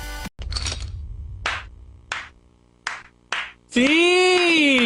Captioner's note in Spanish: Benson aplaude